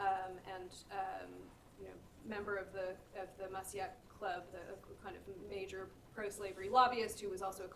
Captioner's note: speaking french; french